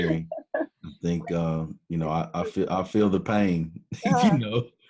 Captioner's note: laughs